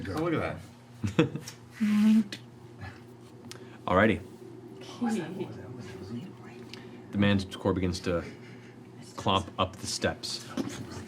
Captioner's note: humming drone